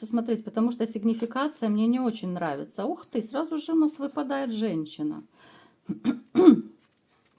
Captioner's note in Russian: откашливается